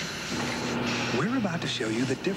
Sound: conveyor belt moving into place

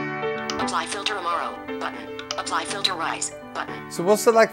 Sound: click

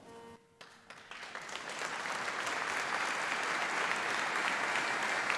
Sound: audience applauding

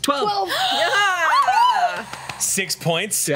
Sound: cheers

